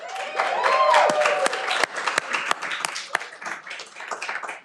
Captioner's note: cheering